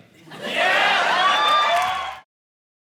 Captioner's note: audience cheering